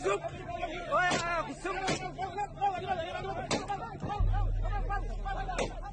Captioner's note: gunshots